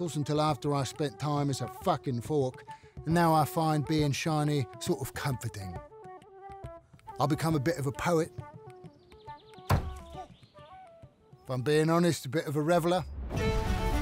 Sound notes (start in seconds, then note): 9.7 broom slams